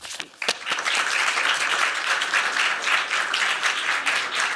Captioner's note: applause